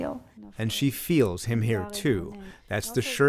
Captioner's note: voice-over